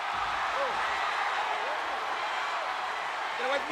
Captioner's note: spectators cheering